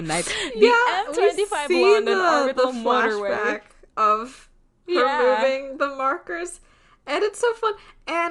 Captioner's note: laughing